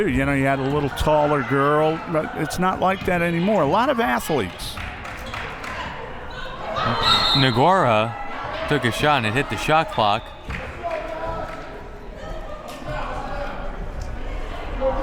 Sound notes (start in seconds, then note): 6.8 whistle